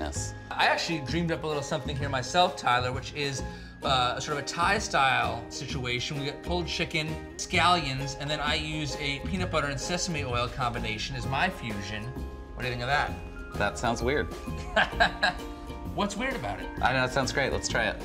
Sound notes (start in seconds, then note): 14.6 chuckle